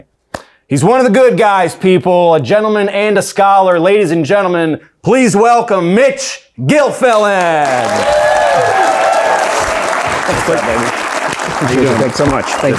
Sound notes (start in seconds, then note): 7.1 audience cheering; 7.2 audience applauding